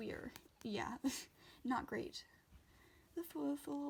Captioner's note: laughs